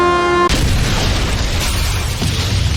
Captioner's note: boom; crash; boom